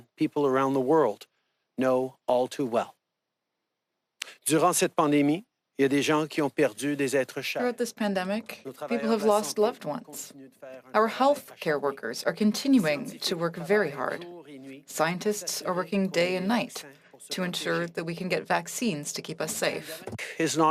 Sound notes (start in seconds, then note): 9.4 speaking French